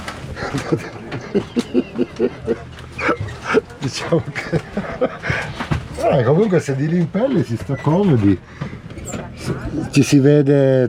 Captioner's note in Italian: Risate